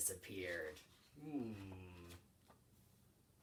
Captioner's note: intrigued noise